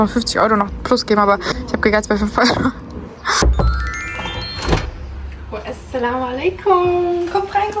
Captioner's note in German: räuspern